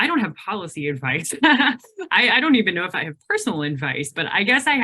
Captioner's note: laughs